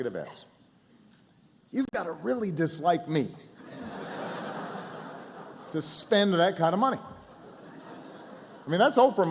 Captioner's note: laughter